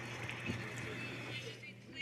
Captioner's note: some Applause